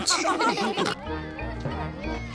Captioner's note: children exclaiming playfully